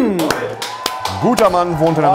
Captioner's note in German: Jubel